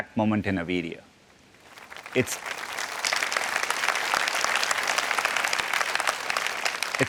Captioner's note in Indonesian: Tepuk tangan